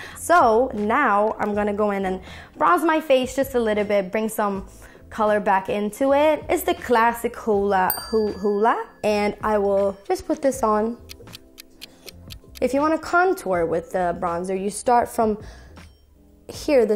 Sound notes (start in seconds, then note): 10.9 clock ticking